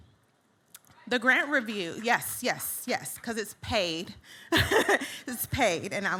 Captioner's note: laughs